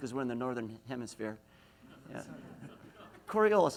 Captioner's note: laughs